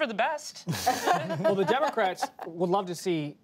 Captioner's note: laughter